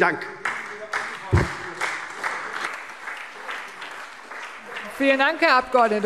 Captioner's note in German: Beifall SPD und vereinzelt CDU – Zurufe AfD